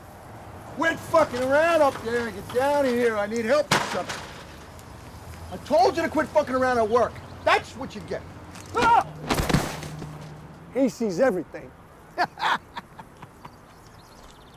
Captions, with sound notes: - Quit fuckin' around up there and get down here, I need help with something. I told you to quit fuckin' around at work. That's what you get! (screams and thuds) He sees everything. (cackling)